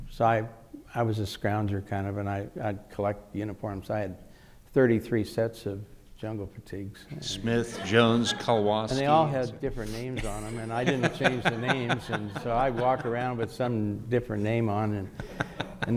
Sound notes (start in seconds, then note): 10.1 laughing